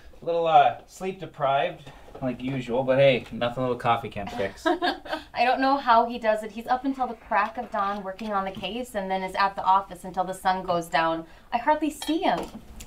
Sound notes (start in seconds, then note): 4.3 laughs